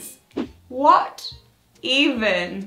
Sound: swooshing

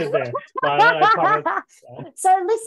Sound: laughing

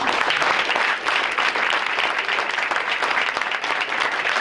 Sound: audience applauding

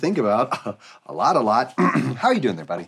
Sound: chuckles; clears throat

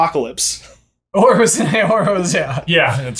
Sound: laughing

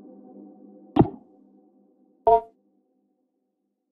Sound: somber music; computer notification whirring; computer notification dinging

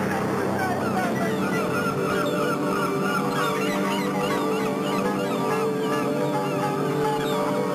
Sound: seagulls cawing

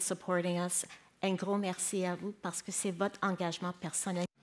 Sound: speaking in French

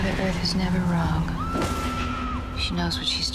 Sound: screaming

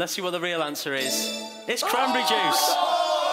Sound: chiming; shouting

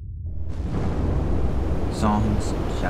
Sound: waves crash

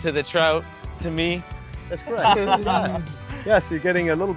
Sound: laughter

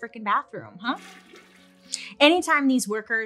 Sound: toilet flushes

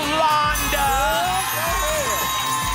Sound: applause and cheering

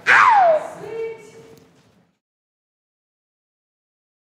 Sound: screams

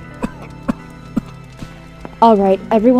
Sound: cough

